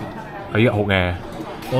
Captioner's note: speaking Vietnamese